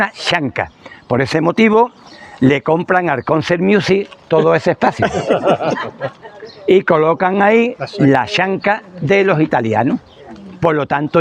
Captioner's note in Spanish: risas